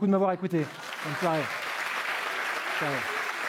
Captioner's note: applause